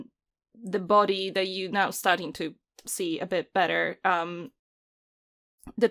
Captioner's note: none